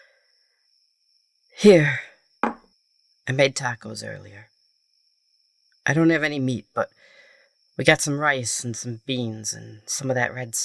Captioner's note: plate set down